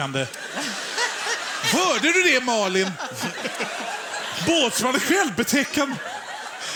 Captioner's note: Stockholm Accent